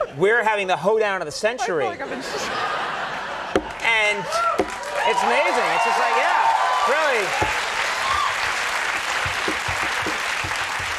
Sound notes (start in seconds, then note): 2.0 audience laughing, cheering; 6.2 audience clapping